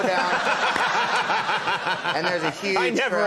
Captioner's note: audience laughing